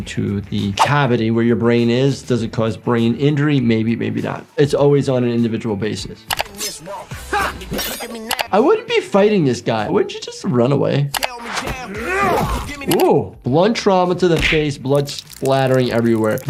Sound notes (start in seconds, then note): 6.2 knife slashes; 6.8 man grunts; 11.2 funky song plays; 11.6 man grunts loudly